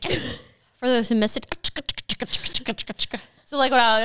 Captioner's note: mimicking a car; mimicking a car